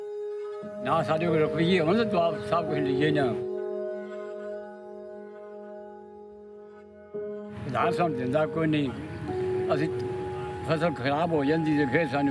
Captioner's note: non-english speech